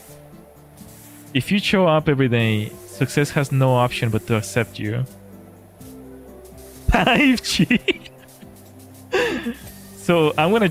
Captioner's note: laughter